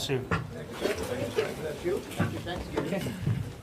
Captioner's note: chattering